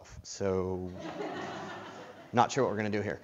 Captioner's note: laughter